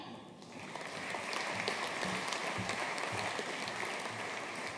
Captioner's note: audience applauding